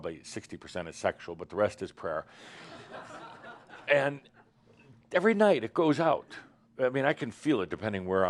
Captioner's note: some laughter